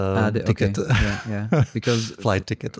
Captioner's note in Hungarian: nevetés